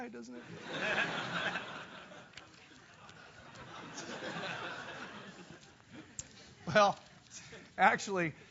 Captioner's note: laugh